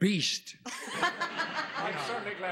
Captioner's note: laughs